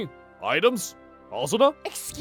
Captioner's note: none